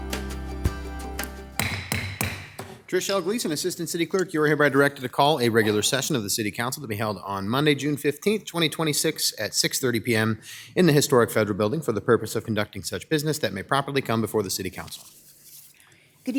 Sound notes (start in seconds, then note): 1.6 gavel bangs